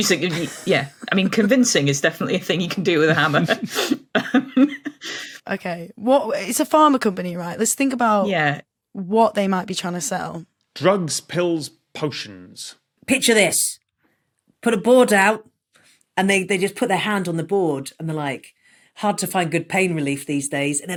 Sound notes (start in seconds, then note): 2.1 giggles